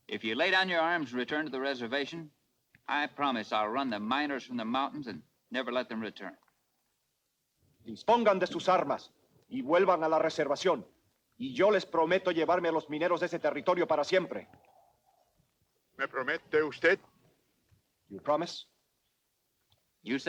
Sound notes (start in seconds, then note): 8.0 Ramirez speaks Spanish; 16.0 Victorio speaks Spanish